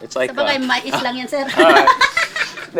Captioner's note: laughs